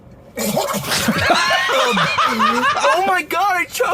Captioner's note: choking; both laughing